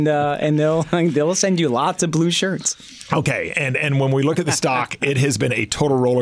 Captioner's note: laughs; laughs